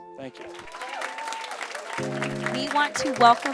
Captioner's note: audience cheering